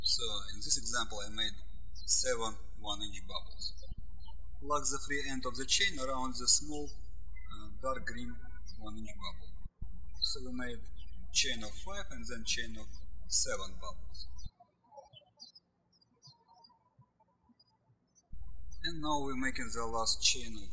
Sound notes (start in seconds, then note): 14.8 birds chirping